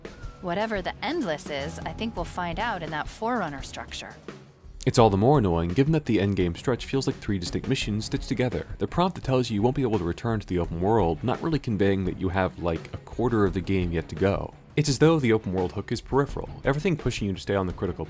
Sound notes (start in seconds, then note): none